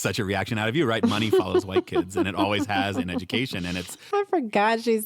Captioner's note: laughs